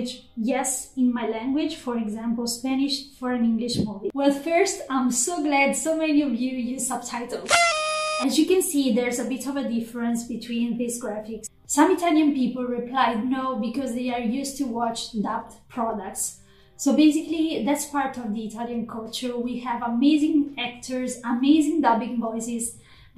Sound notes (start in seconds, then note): 7.5 party sound